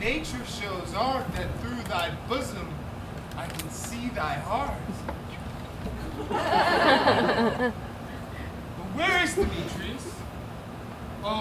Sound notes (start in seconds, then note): 5.9 audience laughs